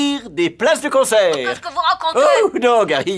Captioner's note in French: voix de Gary Coleman